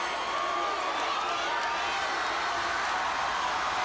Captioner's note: crowd cheering